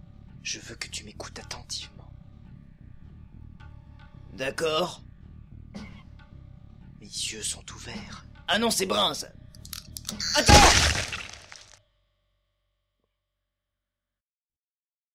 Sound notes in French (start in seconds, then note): 10.4 tir + explosion de cervelle